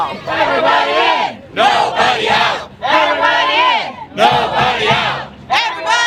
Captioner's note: chanting